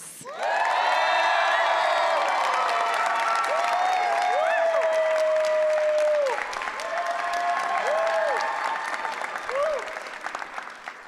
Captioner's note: applause